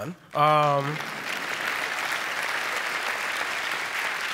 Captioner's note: applause